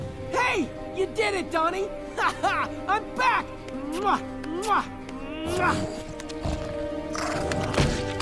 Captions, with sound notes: Hey, you did it, Donnie! Ha ha, I'm back! [smooching]